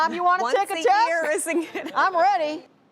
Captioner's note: laughing